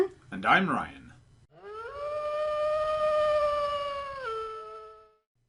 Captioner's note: distant wolf howl